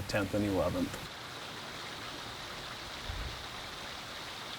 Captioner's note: water flowing